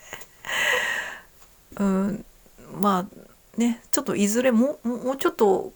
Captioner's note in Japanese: 鼻息